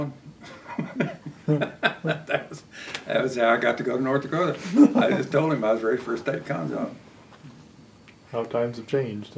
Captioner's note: laughs